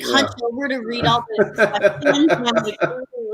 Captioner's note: laughs